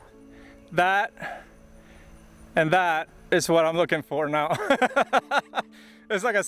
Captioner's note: laughs